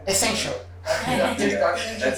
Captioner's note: laughter